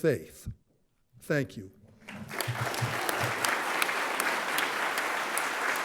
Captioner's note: audience clapping